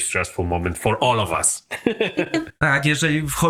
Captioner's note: laughs